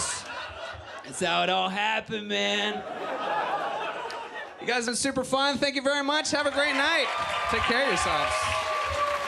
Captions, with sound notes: That's how it all happened, man. You guys have been super fun, thank you very much, have a great night! (audience applaud and cheer) Take care of yourselves.